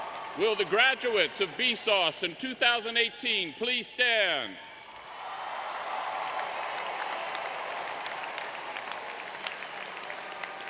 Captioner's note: applause